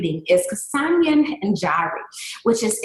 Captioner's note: speaking in a foreign language